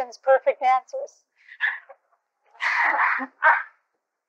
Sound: laughter

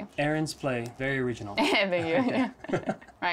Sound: laugh

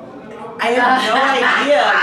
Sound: laughing

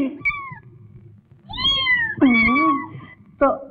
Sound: cat meow

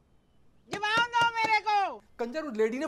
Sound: knock on door

